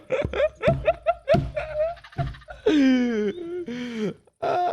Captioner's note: laughing through the pain